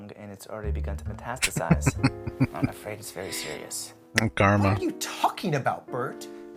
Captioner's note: laughing